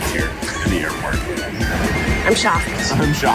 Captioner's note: laughs